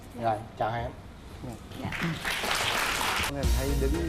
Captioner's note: applause